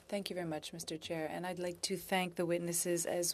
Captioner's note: speaking French